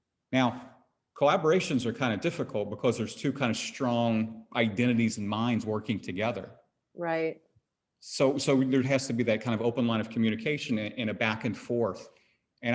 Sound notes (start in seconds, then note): none